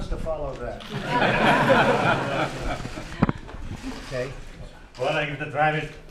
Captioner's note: laughter